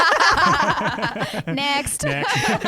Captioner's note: laughing together